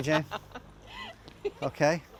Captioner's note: laughing